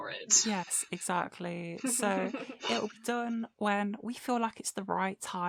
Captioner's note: giggles